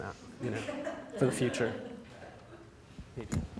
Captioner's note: audience laughs